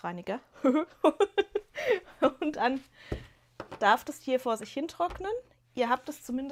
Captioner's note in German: gelächter